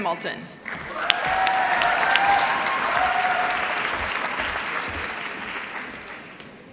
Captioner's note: applause